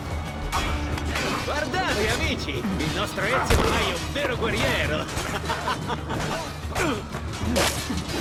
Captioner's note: laughs